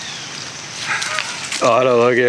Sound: laughing

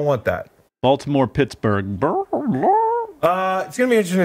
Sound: squawks

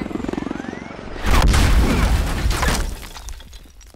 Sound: sound of falling helicopter; explosion

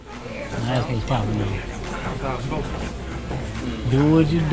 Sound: people talking quietly

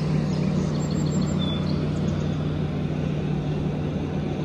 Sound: birds chirp

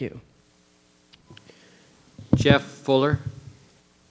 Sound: microphone beeping

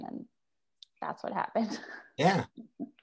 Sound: chuckles

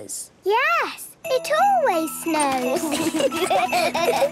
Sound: laughter

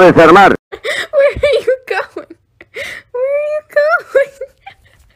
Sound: laughing

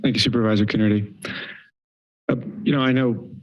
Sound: pause

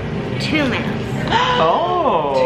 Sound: gasps

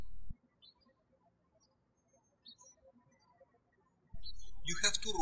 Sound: birds chirping

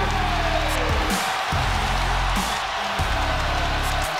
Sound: audience cheers

